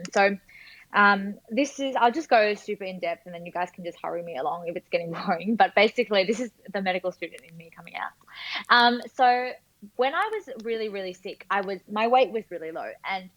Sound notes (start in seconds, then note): none